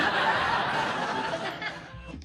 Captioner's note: audience laughs